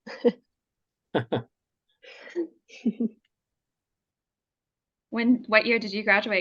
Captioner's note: laughter